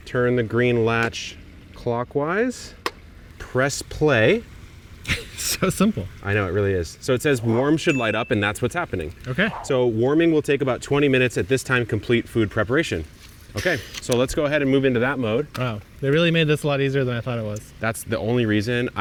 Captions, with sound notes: turn the green latch clockwise. (dial clicks) Press play. - (chuckles) It's so simple. - I know, it really is. So it says warm should light up (bell dings) and that's what's happening. - Okay. - So warming will take about 20 minutes at this time, complete food preparation. Okay, so let's go ahead and move into that mode. - Wow, they really made this a lot easier than I thought it was. - That's the only reason